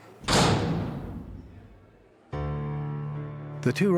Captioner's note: cell door clangs